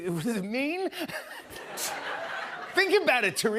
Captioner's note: laughter